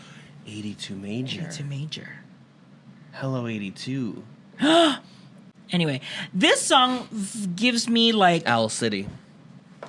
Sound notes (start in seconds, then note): 4.5 gasp